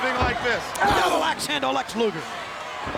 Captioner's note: wrestler grunts